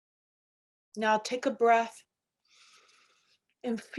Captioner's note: inhaling